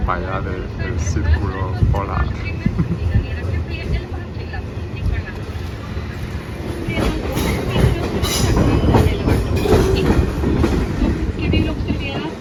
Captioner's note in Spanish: hablando en sueco por megafonia